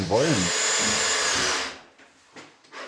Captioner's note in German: Surren eines Bohrschraubers